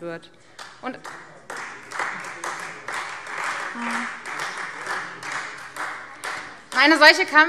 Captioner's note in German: Beifall Freie Demokraten